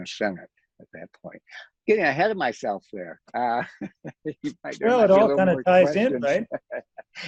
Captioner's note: laughs